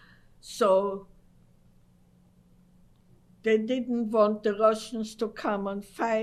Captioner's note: pauses for 3 seconds